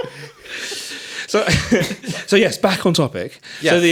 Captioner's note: all laughing